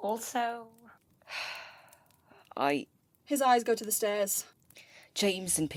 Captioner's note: he exhales